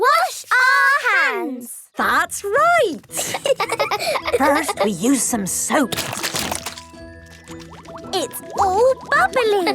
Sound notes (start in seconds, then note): 3.1 laughing; 5.8 squirt! squirt!